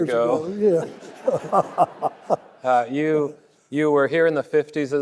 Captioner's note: laughing; audience laughing